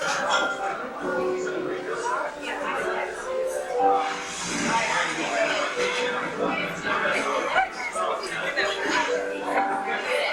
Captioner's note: restaurant noise